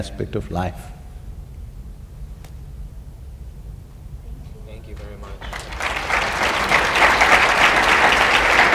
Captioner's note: applause